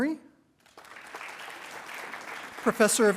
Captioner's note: attendees applauding